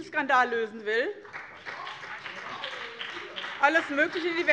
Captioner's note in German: Beifall BÜNDNIS 90/DIE GRÜNEN - Zurufe Freie Demokraten: Doch!